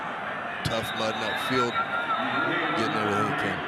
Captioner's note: referee blows whistle